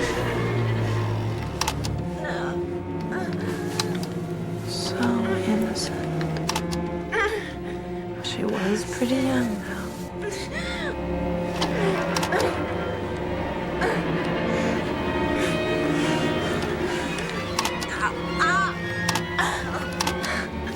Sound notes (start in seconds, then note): 0.0 V.C.R. rewinding; 2.6 V.C.R. playing; 11.0 V.C.R. rewinding and playing; 11.6 sexual noises; 17.6 V.C.R. rewinding and playing